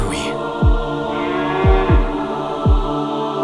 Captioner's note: distant moo